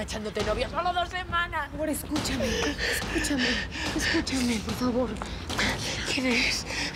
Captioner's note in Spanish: Sollozos